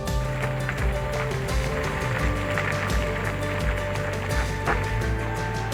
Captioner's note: gravel crunching under tires